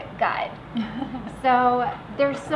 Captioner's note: giggling